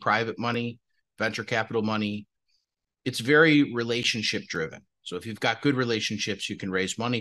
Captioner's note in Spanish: HABLA EN INGLéS